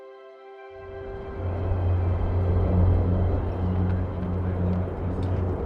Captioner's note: airplanes whooshing